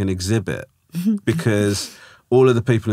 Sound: laughing

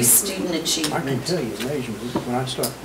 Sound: overlapping chattering

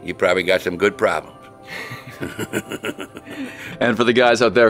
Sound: laughs

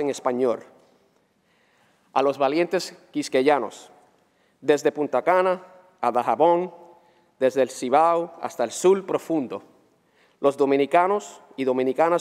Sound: speaking spanish

